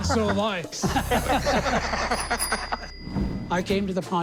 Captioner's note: laughter